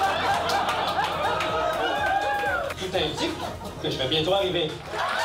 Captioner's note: laughs